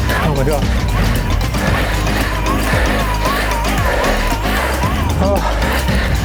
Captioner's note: heavy breathing; wheels whirring